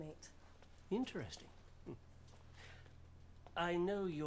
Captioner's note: chuckles